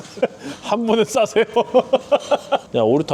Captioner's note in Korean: ㅋㅋ